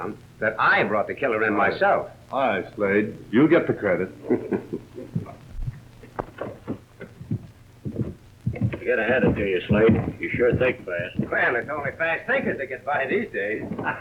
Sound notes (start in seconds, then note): 4.2 Slade laughs; 13.5 Slade and Kyper laugh